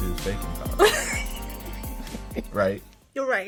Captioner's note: laughs